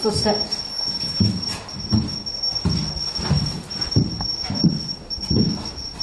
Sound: high-pitched tone beeping

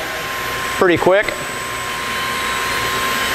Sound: sound of machine

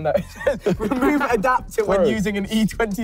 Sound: group laughing

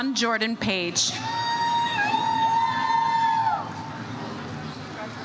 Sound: audience cheers

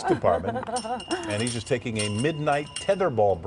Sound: laughter

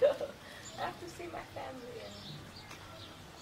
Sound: laughs

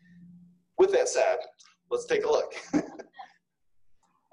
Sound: laughs

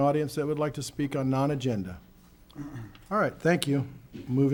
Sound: clears throat

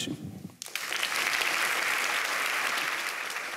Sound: applause

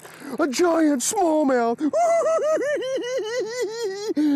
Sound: giggling

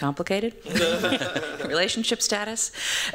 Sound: laughter

